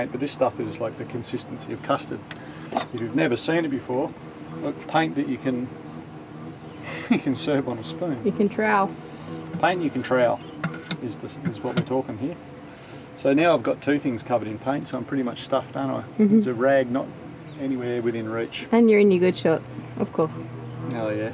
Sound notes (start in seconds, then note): 16.3 laughs